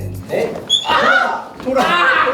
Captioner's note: thud